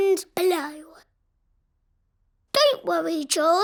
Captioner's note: silence